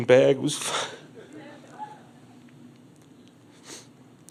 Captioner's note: crowd laughs